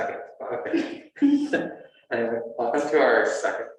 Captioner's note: laughter